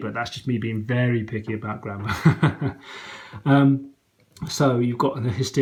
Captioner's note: laughs